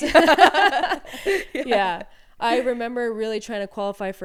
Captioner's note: both laughing